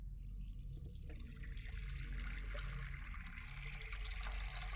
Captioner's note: water running